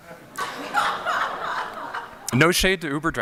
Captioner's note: laughter